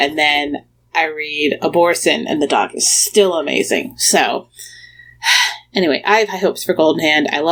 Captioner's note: short sigh